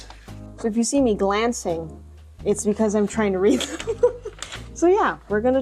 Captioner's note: laughs